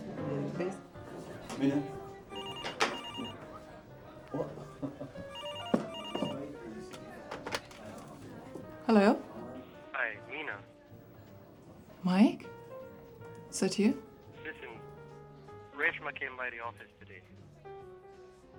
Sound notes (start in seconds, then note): 2.1 phone ringing